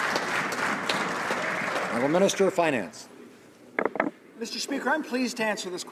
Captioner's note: some Applause